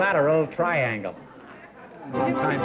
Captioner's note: laughter